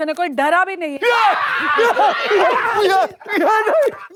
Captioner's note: mixed screaming and laughter